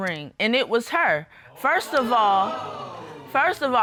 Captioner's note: audience exclaims